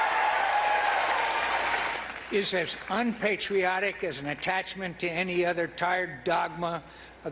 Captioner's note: applause